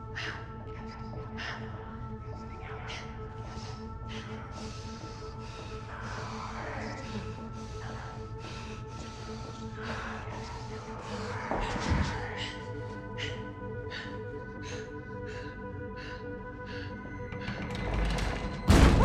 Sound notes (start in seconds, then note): 2.4 voice echoing; 18.8 screams